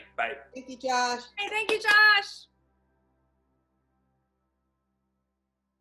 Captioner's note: soft claps